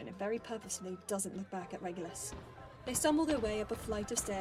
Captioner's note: footsteps up stairs